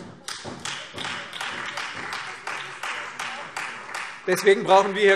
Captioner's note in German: Beifall Freie Demokraten und SPD